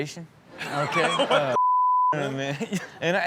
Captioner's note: laughs